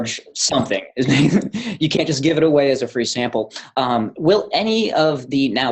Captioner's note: chuckle